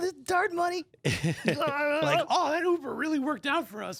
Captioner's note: laughs